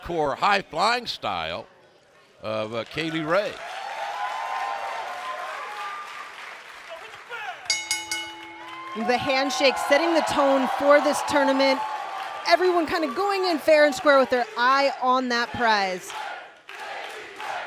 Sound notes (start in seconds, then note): 5.2 cheers and applause; 7.7 bell ringing